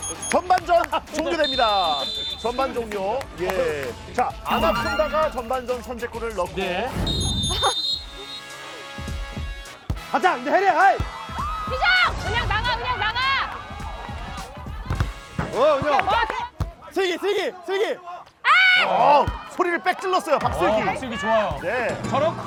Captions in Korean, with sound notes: -잘했어! -전반전 종료됩니다. 전반 종료. 아나콘다가 전반전 선제골을 넣고 -(호루라기 소리) -가자, 헤이! -희정, 희정, 희정! -은영 나가, 은영 나가! -슬기, 슬기, 슬기.